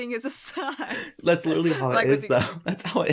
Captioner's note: both chuckles